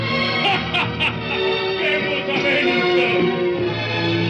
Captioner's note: laughing loudly